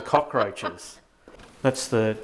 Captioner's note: laughing